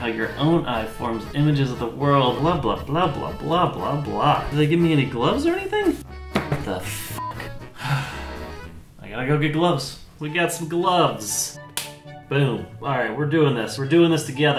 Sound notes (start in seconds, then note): 11.7 snap